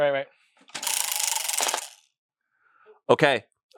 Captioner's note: wheel rattles